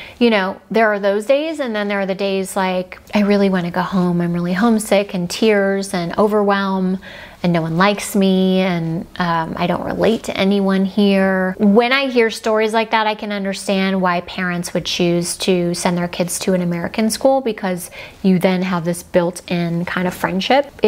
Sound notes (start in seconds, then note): none